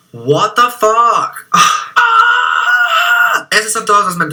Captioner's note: screaming of stress